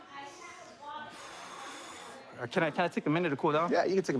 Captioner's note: exhales